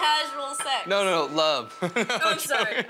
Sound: laughs

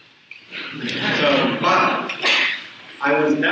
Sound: audience chuckles

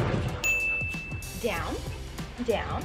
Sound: bell dings

